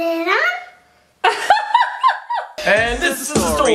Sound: laughing

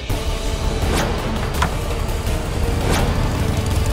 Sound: door opens

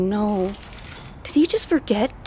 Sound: chains rattle

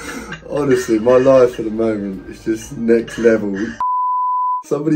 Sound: beep

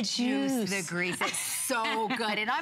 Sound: laughter

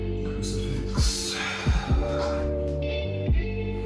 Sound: exhales

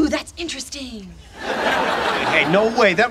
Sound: audience laughing

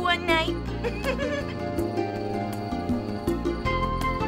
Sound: giggle

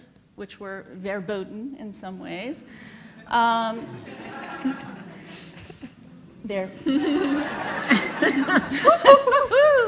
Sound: laughs

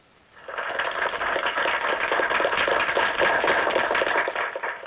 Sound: applause

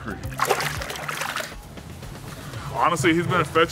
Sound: water splashing

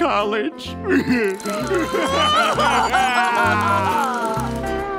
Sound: crying

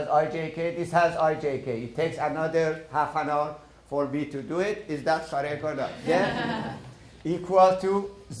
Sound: laughter

